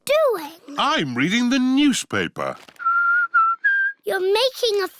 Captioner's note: whistles